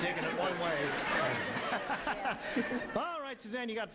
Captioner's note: laughing